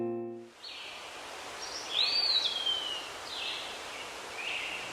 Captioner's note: birds chirping